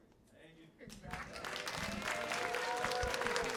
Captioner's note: applause